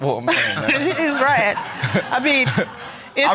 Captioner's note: audience laughing